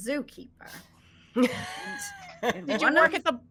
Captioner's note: all laughing